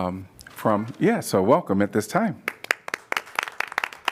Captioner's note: applause